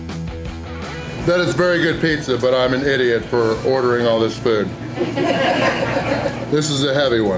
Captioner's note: crowd laughter